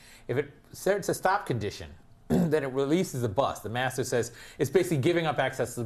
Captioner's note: cough